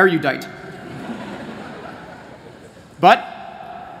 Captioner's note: laughter